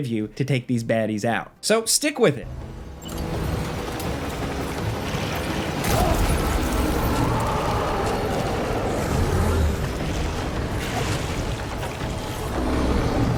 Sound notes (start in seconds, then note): 5.8 grenade blasting; 7.1 BT roaring